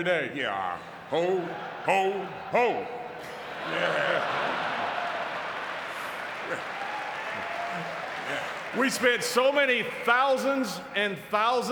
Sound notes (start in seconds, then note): 3.5 audience cheering and clapping